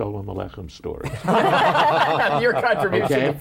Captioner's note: laughter